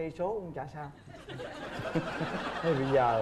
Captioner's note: laughing